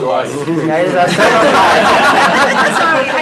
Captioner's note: laughter